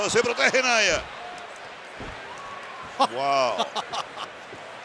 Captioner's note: applause; laugh; applause